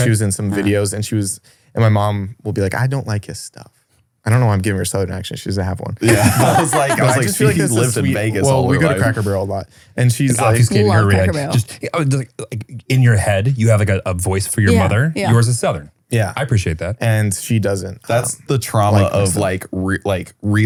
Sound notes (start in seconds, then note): 6.0 laughs